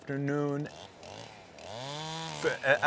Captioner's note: buzzing continues